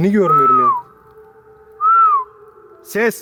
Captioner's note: whistling